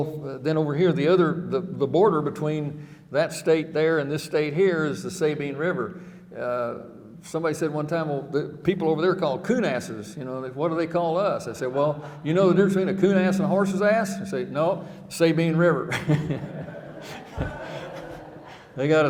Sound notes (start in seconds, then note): 15.8 chuckling; 17.5 audience laughing